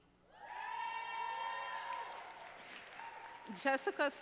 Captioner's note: audience applauding